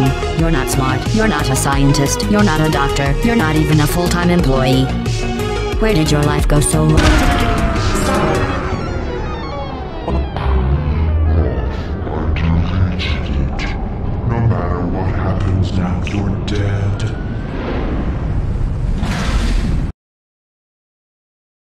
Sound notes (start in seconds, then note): 7.4 explosion; 10.0 low-pitch voice